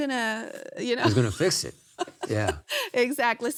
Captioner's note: laughs